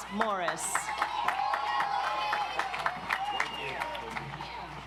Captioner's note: audience applauds